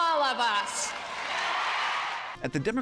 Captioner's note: cheering and applause